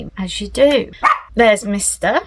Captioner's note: woof